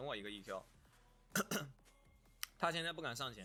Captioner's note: coughs